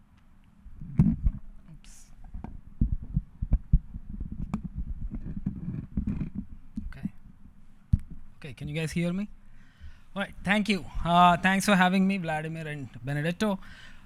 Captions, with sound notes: Oops. (microphone clunking) Okay. Okay, can you guys hear me? All right, thank you. Thanks for having me, Vladimir and Benedetto.